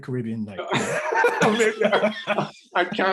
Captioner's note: both laugh